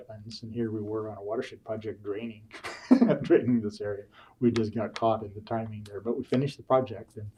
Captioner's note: laughs